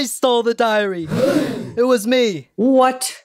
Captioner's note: gasp